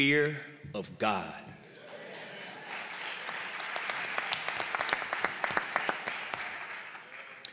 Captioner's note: applause